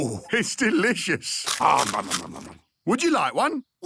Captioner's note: crunching